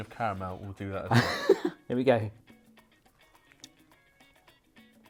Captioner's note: laughs